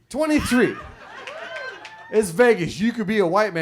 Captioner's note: audience cheers